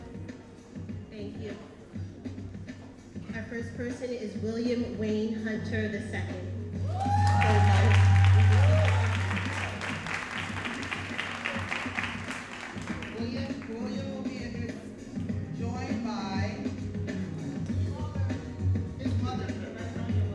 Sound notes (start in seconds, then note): 6.8 audience cheering and applauding